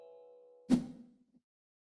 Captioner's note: air whooshes